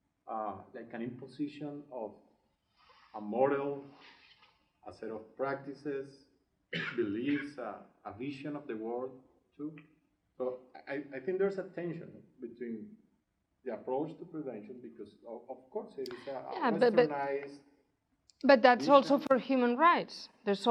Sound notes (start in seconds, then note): 17.3 murmurs